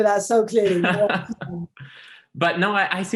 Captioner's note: laughs